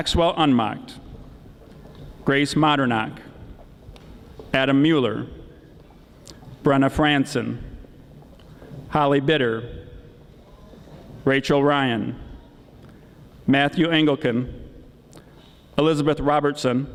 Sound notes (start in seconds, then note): none